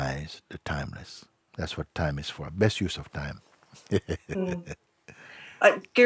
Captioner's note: lacht